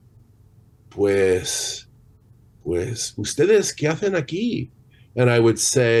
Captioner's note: non-english speech